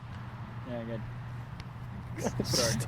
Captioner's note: both laughing